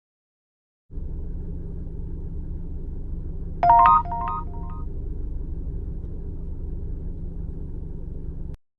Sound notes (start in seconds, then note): 3.6 text sound